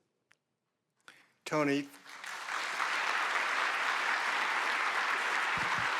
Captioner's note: audience applauding